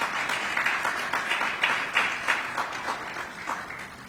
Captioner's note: applause